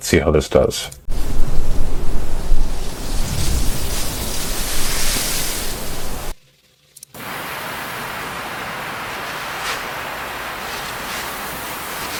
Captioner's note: sound of wind